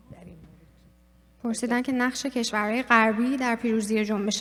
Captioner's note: speaking persian